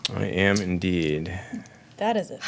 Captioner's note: dice rolling